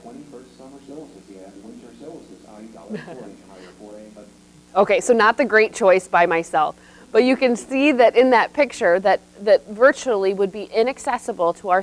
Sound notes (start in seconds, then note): 2.8 laughs